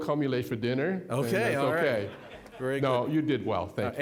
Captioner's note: audience laughing